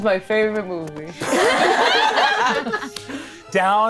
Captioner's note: all laughing